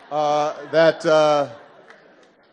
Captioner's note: laughter